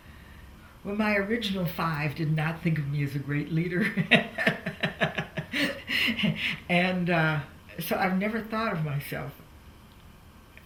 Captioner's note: laughs